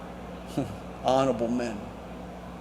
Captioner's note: chuckles